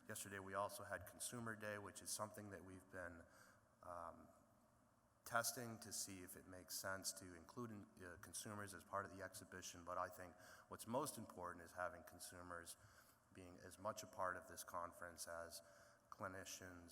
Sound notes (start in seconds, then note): none